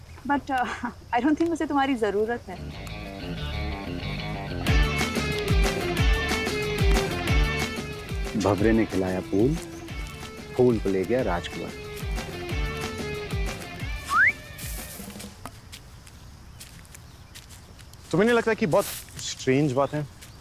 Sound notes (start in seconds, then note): 13.9 whistle; 15.7 rustle of the leaves